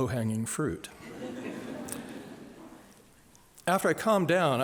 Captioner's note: laughter